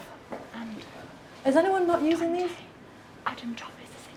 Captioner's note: whispering